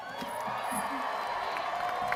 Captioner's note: applause